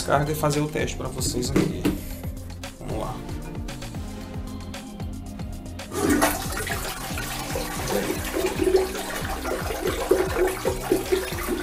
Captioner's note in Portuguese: barulho de água